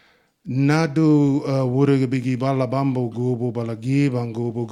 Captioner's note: speaking in Ngunnawal